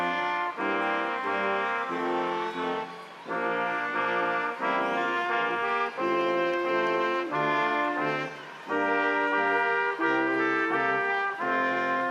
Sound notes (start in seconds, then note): 5.6 crowd applauding; 5.6 instrumental music continues